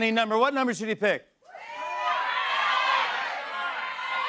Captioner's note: audience shouts numbers